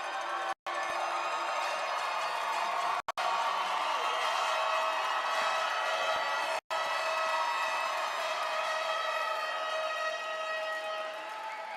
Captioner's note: applause